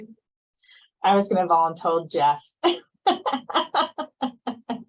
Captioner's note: laughs